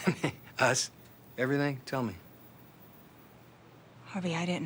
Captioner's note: laughs